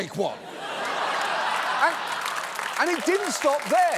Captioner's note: laughter